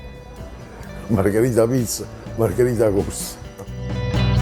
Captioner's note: in Neapolitan dialect